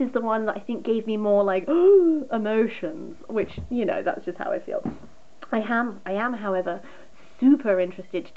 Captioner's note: gasp